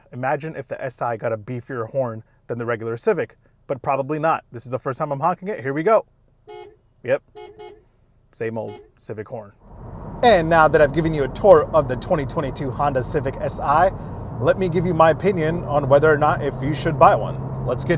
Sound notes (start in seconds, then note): 7.2 horn honking